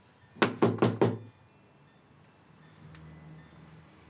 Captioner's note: knocking on door